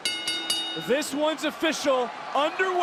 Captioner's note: bell rings